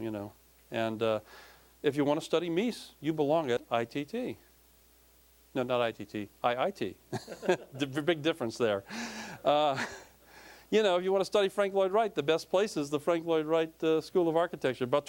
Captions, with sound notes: YOU KNOW, AND IF YOU WANNA STUDY MIES, YOU BELONG AT I.T.T. NO, NOT I.T.T.-- I.I.T. (audience laughing) BIG DIFFERENCE THERE. UH, YOU KNOW, IF YOU WANNA STUDY FRANK LLOYD WRIGHT, THE BEST PLACE IS THE FRANK LLOYD WRIGHT SCHOOL OF ARCHITECTURE.